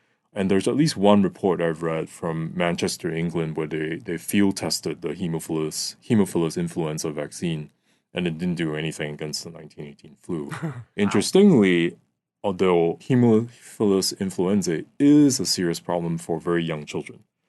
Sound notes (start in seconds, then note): 10.5 chuckles